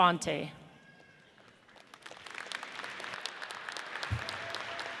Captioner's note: audience applauds